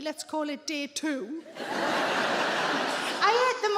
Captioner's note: audience laughs